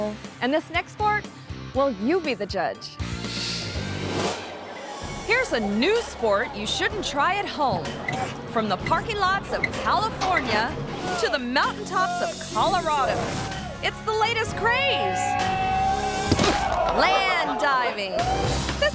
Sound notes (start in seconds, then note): 3.2 upbeat music; 14.6 people shouting; 16.3 body thumps